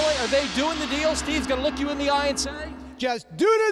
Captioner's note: gong ringing